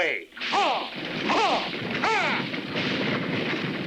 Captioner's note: driver shouting